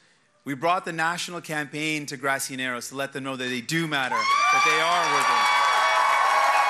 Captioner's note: cheers and applause